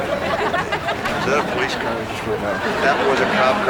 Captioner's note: laughter